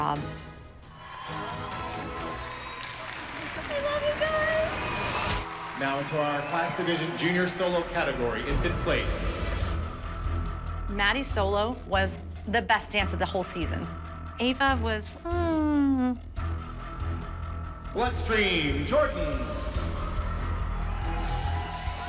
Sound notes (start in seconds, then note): 0.9 audience cheering; 5.0 whooping; 5.3 applause; 20.3 cheering